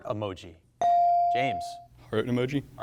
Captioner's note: buzzer chimes